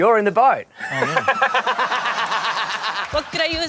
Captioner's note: laughs